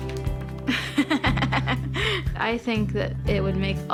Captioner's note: laughs